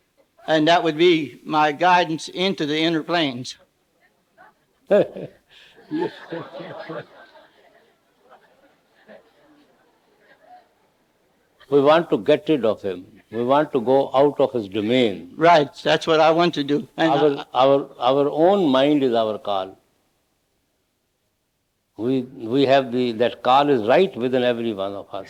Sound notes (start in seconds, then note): 5.8 laughing